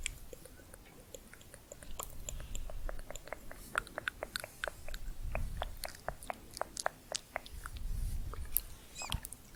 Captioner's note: layered tongue clicking